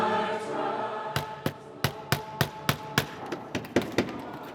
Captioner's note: hammering